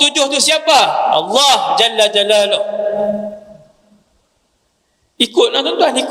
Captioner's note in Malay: menjerit